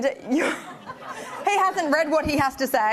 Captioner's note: attendees laughing